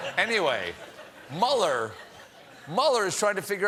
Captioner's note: audience reacts